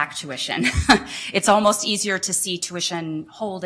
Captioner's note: laughter